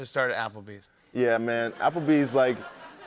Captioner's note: laughter